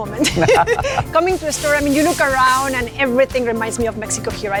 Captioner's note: chuckles